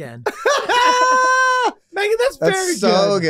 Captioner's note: group laughing